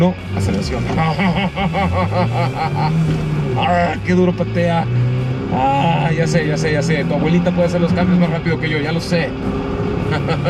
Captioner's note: engine reving